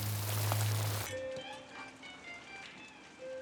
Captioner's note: thunder rumbling